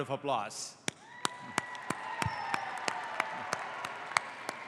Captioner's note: audience applauds